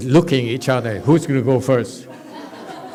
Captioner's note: master looks side to side. Audience laughs